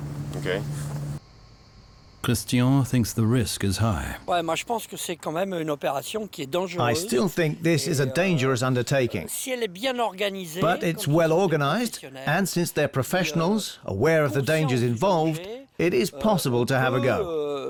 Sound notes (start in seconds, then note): 4.3 speaking French